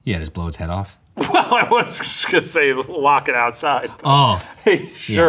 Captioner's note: laughing